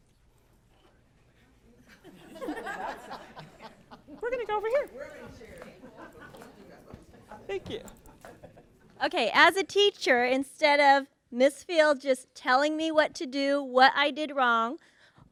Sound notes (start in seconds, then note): 1.8 laughter